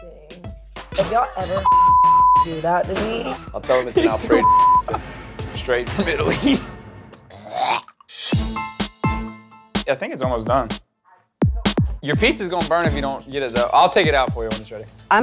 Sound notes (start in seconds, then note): 1.6 beep; 7.2 gags; 8.3 bright music